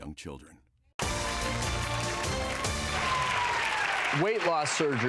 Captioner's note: audience applause